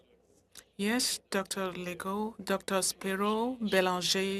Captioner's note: speaking French